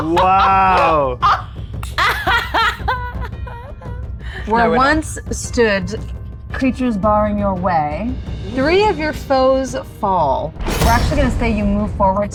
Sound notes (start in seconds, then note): 0.0 laughs